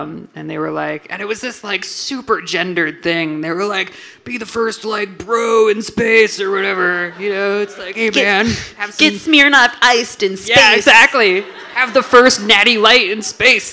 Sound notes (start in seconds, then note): 6.7 audience laughing